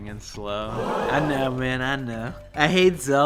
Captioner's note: crowd gasps